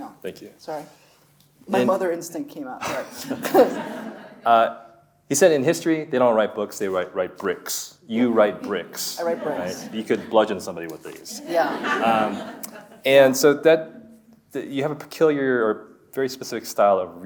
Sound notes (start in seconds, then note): 2.9 chuckles; 3.0 audience laughs; 11.4 audience laughing